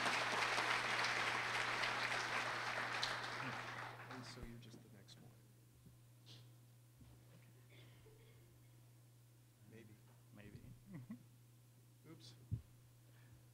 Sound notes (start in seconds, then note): 2.2 mumbling